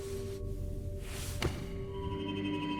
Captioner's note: book thuds; footsteps tapping; suspenseful music